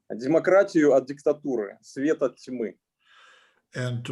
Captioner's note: speaking Russian language